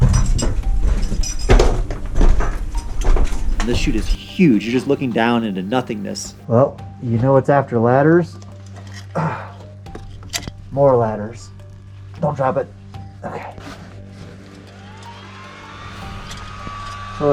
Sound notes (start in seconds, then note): 0.0 footsteps and banging; 0.0 metal clanking; 8.6 scraping; 9.1 sighing and grunting; 13.2 sighs; 15.0 mechanical whirring